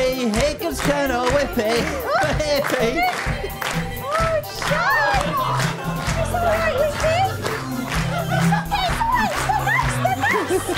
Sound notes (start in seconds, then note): 4.3 audience clap along